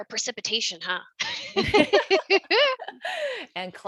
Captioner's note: laughing